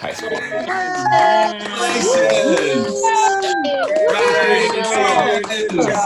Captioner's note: people cheering and applauding